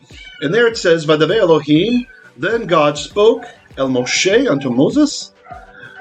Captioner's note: Hebrew